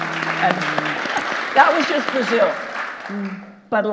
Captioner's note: audience applauding